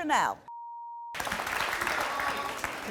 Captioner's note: beep